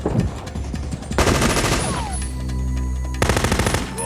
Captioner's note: machine gun firing